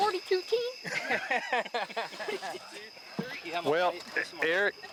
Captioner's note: all laughing